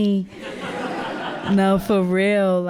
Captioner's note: audience laughing